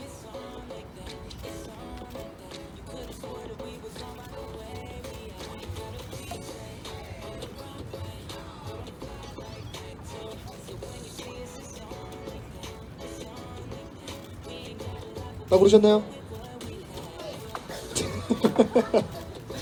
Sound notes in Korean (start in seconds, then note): 17.8 웃음